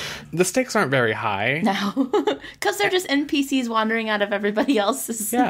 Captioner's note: laughs